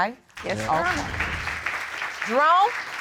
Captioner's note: audience applauding